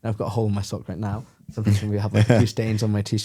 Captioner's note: laughs